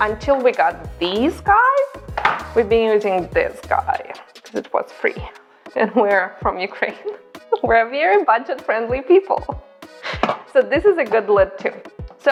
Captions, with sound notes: Until we got these guys, we've been using this guy, 'cause it was free, and we're from Ukraine. (laughs) We're a very budget-friendly people. So this is a good lid too.